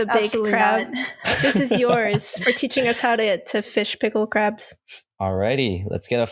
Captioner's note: laughs